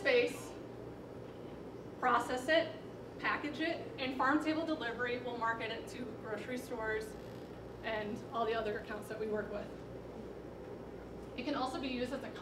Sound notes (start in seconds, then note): none